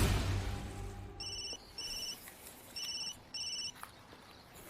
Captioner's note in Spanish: Suena el celular